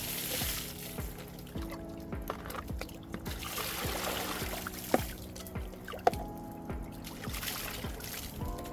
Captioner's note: the sounds of pouring water